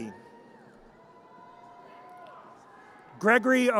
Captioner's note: audience cheers